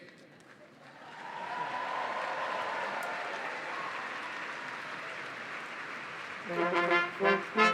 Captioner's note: cheering and applause; orchestra playing